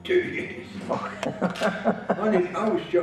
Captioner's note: laughing